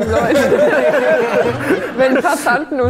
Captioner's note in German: Lachen